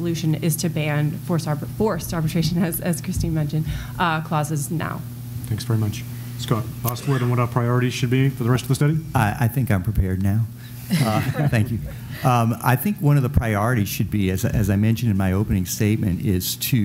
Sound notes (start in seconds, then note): 12.6 laughter